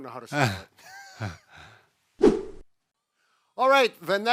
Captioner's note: laughing